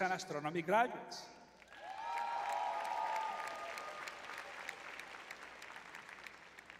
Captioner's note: audience cheering